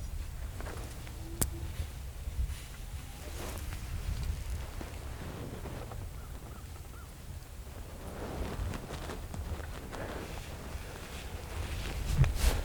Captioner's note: buck coming through grass